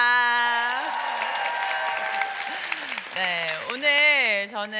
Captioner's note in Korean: 박수